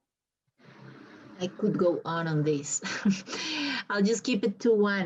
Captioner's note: chuckles